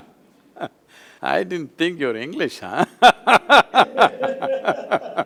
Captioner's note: laughter